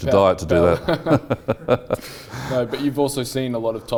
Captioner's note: laugh